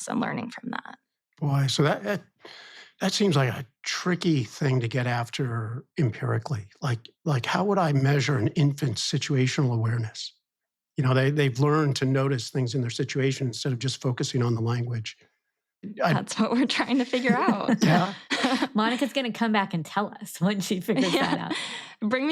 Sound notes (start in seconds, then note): 16.0 laughs